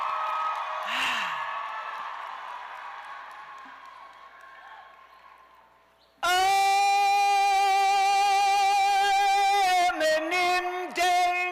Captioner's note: cheers